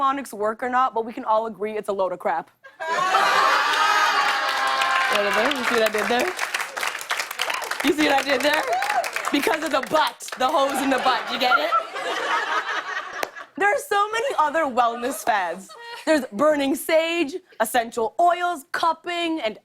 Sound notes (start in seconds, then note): 2.1 laughter and applause; 10.5 laughter